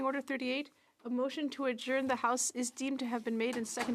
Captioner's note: speaking French